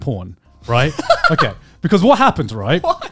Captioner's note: laughs